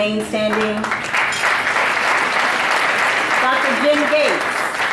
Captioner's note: audience applauding